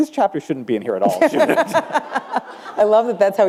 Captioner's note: laughter